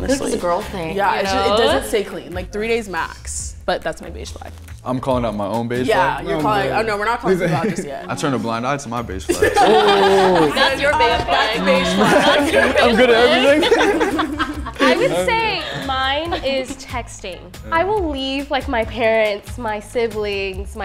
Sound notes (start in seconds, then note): 9.8 group laughs